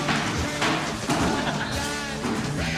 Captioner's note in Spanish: ríe